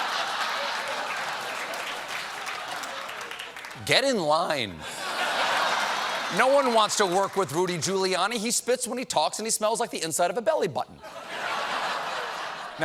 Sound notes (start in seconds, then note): 2.9 applause; 2.9 laughter